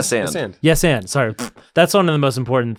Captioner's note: fart sound